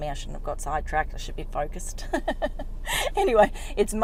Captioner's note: laughs